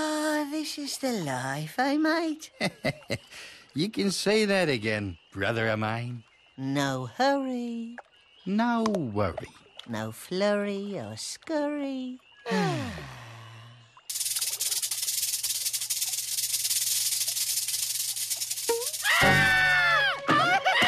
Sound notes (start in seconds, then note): 2.6 chuckle; 12.4 sigh; 14.1 fake snake rattle; 19.0 panicked cries